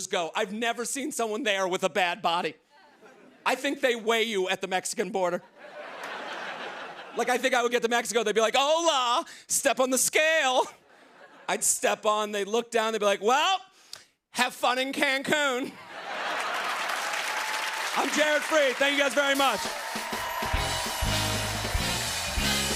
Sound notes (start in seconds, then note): 16.0 cheers and applause